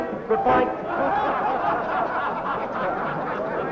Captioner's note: laughter